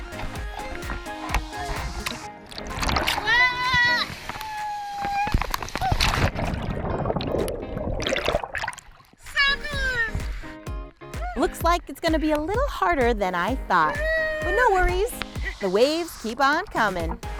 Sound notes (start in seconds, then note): 0.0 upbeat electronic music; 2.6 shouting; 4.0 bubbling